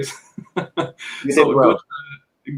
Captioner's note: chuckles